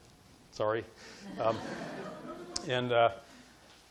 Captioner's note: audience laughing